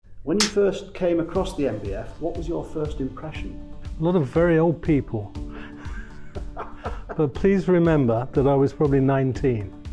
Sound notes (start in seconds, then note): 5.6 laughter off-screen